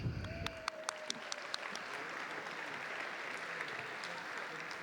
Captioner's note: audience applauding